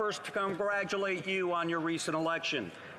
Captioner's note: some Applause